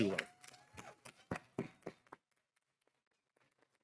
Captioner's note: audience applauding